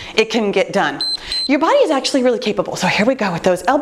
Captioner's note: timer beeps